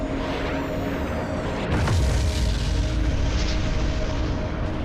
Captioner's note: explosion blasts